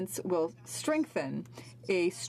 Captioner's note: speaking french